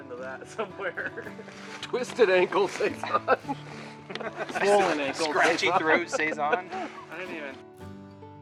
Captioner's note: laughing